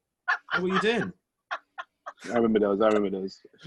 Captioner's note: laughs